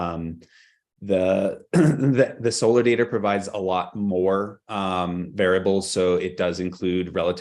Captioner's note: clears throat